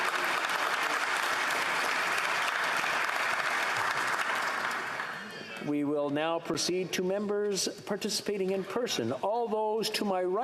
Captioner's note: applause